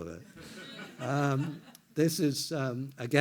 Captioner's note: everyone laughs